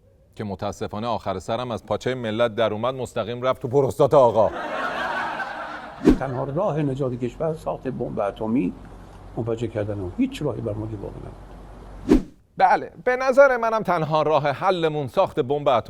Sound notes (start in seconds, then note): 4.4 laughter